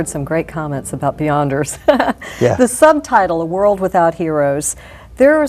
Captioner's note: laugh